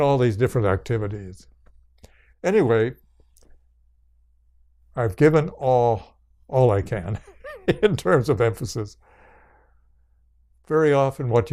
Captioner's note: laughs